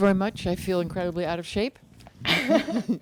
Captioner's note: laughing